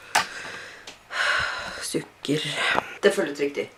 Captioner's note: sighs